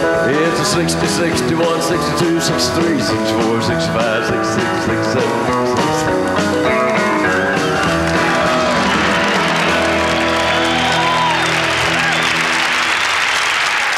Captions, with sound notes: It's a '60, '61, '62, '63, '64, '65, '66, '67 [Applause] [Music stops playing]